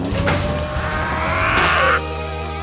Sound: grunting

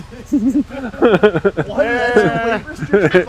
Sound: men laugh

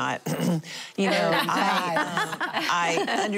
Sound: laughing

